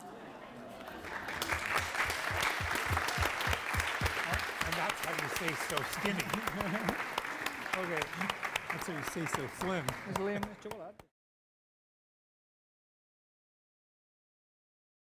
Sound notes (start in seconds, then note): 0.8 applause; 6.3 laugh